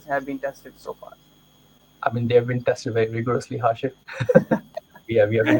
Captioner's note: laughs